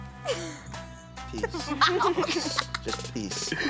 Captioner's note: giggles; laughter